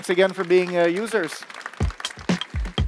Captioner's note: applause